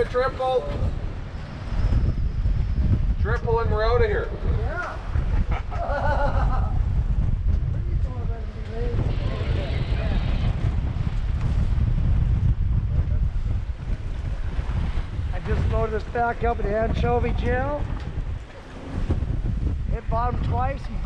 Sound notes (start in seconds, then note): 5.1 laughing; 7.8 background chatter